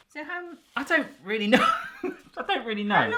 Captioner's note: laughing